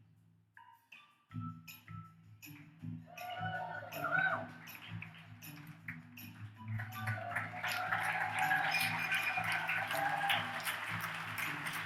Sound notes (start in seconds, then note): 3.2 audience cheers